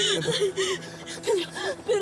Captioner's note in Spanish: llanto